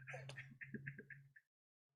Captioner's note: laughter